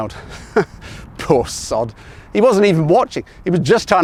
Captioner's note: chuckles